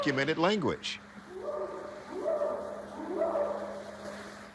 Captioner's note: short howls